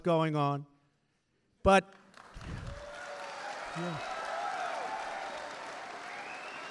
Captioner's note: applause